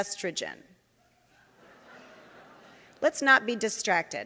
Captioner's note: audience laughing